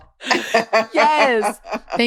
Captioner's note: laughing